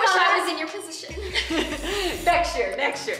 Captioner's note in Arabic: يضحك